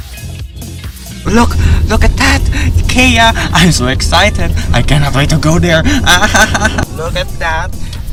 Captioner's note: exasperated laughing-crying